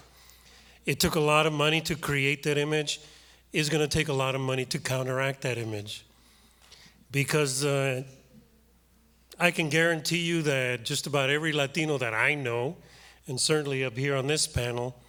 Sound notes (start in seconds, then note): none